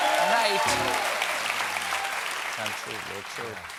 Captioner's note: cheers and applause